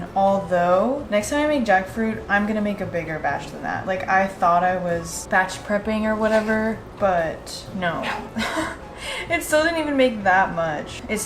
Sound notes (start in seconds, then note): 8.0 laughs